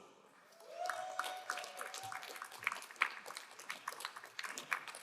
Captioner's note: crowd applauding